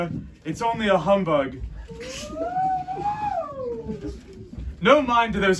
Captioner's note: haunting sounds